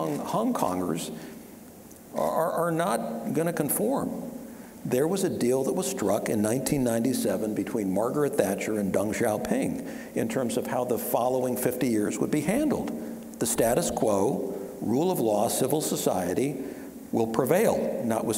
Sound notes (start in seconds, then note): none